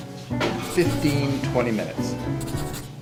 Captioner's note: pencil scribbling